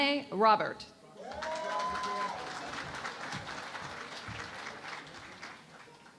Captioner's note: cheering and Applause